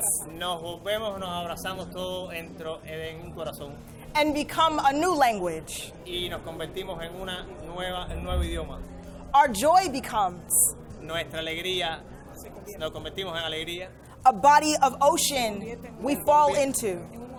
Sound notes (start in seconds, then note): 0.1 and interpreter speaking in foreign language; 6.3 and interpreter speaking in foreign language; 11.2 interpreter speaking in foreign language; 17.1 and interpreter speaking in foreign language